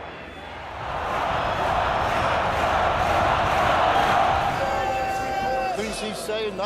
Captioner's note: crowd chanting and clapping Bernie, Bernie, Bernie